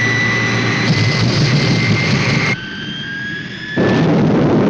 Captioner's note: plane banging